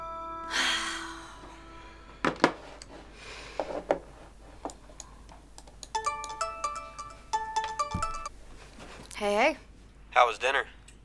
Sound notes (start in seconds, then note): 0.5 sighs; 5.9 phone ringing